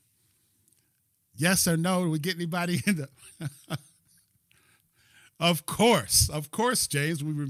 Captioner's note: laughter